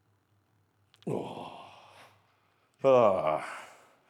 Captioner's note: sighing